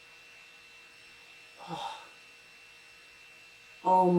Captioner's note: sigh